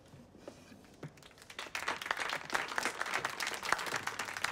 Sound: group applauds

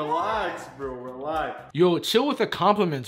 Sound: deep voice

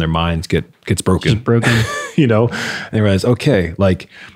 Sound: laughing

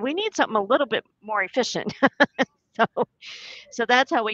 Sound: laughs

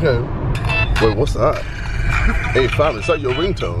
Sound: phone ringing

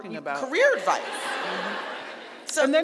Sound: audience laughing

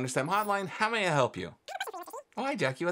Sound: speaking speedily

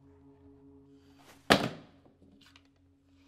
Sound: gun slam

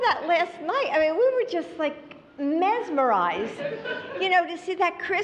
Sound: laughter

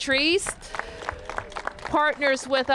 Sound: applause

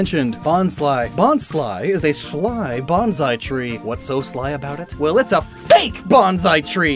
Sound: slap

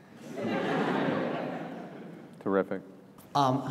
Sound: audience laughs

